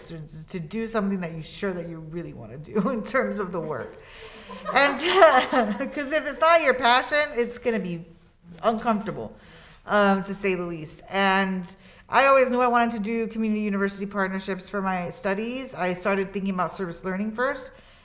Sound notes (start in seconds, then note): 4.0 students laughing